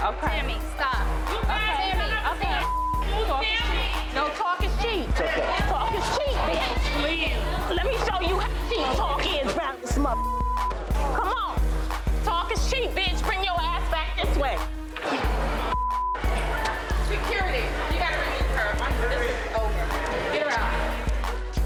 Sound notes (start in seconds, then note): 1.4 all chattering; 21.4 upbeat music plays